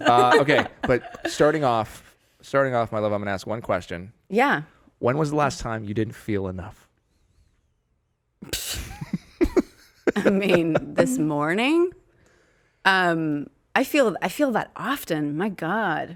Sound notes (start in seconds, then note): 8.8 laughing